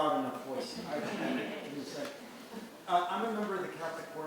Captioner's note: audience laughing